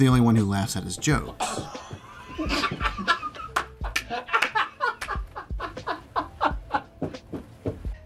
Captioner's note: laughs enthusiastically